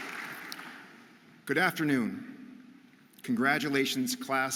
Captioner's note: audience applauding